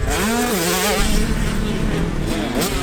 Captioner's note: dark echo hit sfx